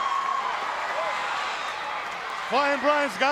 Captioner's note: crowd cheering